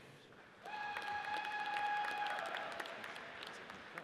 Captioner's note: audience cheers